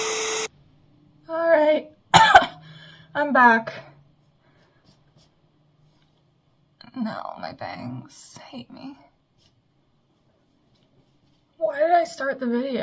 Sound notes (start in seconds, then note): 2.1 cough